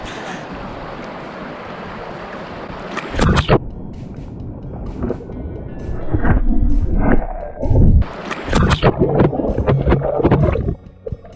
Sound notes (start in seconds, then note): none